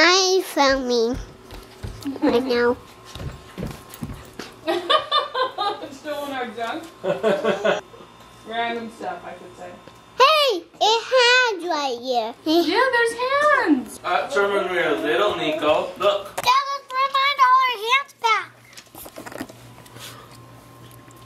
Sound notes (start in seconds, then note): 7.0 laughs